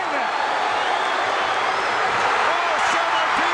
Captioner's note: audience cheering